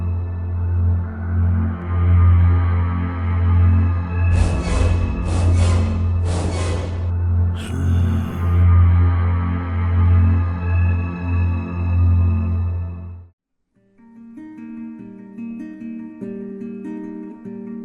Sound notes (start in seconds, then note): 7.5 groan; 14.5 playful guitar music